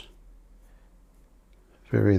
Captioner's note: silence